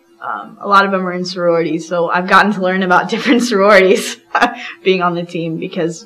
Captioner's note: laughs